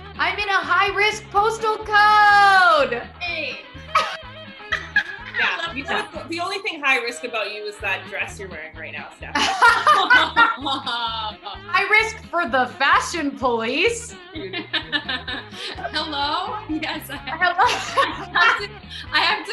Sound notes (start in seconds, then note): 4.6 laughing; 9.3 laughter; 14.1 laughing